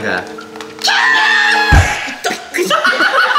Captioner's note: screams